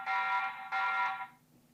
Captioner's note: alarm beeping